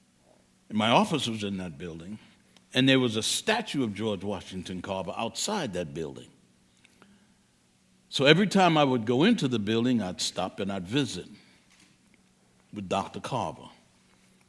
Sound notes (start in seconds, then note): none